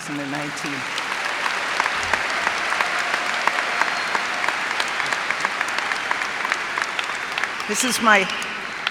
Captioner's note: cheers and applause